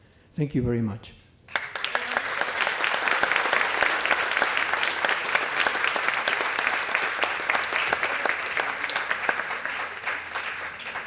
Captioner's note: applause